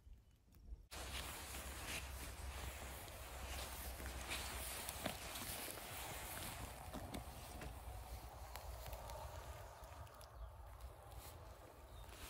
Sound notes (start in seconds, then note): 0.9 sounds of distant traffic